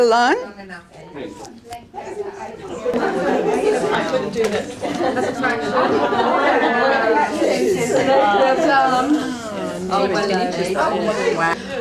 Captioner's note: audience chatter